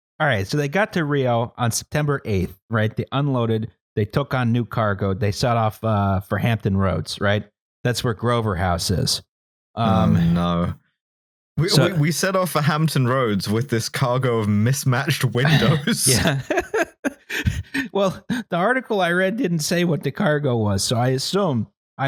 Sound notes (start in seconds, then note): 15.3 laughter